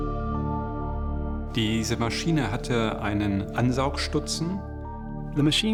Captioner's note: non-english speech